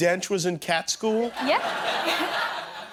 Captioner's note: laughter